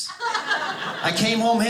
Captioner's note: audience laughing